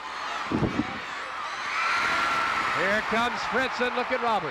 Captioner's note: audience cheering